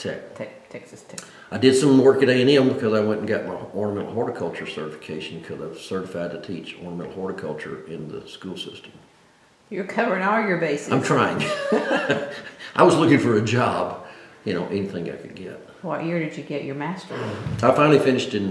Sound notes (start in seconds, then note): 11.4 laughs